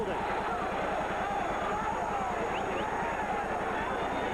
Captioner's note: crowd cheers